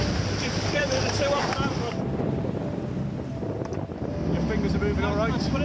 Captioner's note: wind whipping